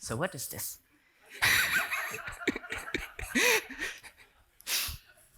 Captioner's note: laughter